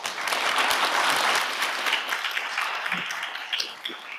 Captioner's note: audience applauding